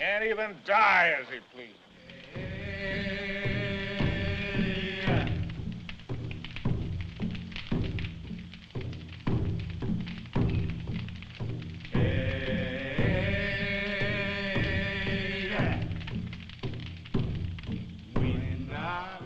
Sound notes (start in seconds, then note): 1.9 men Chanting; 2.6 drum Beating